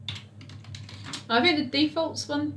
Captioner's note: keyboard clicks